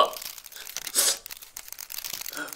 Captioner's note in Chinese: 抽泣